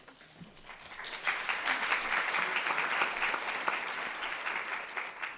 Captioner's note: audience clapping